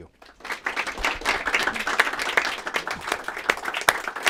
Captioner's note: applause